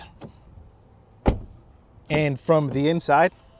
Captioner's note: car door thuds